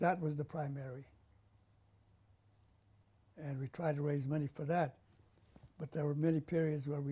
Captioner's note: pauses for 3 seconds